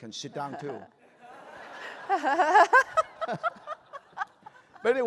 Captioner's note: laughter